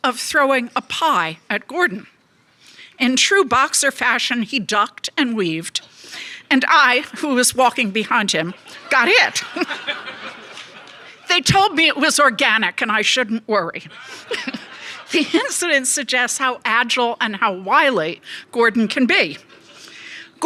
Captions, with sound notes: of throwing a pie at Gordon. In true boxer fashion, he ducked and weaved, and I, who was walking behind him, got hit. (audience laughs) They told me it was organic, and I shouldn't worry. The incident suggests how agile and how wily Gordon can be.